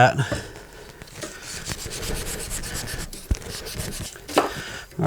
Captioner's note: sanding